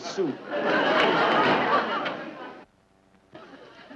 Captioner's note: audience laughing